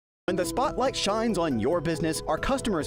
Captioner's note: voice-over